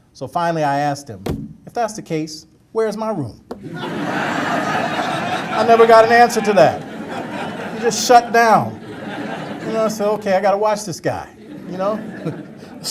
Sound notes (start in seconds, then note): 4.0 audience laughter